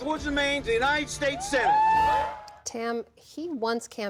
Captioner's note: cheering